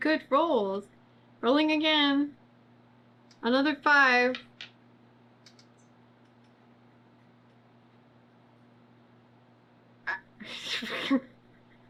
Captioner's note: laughs